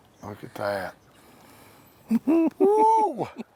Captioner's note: laughing; guy cheers